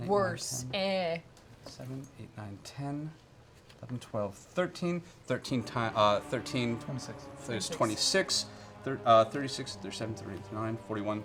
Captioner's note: counts quietly